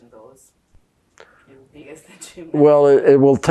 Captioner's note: laughing